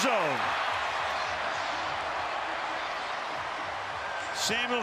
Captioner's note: cheering